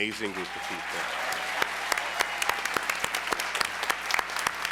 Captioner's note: applause